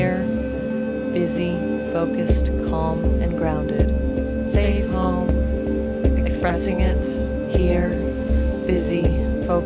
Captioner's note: sounds of breath, syth and feedback intertwine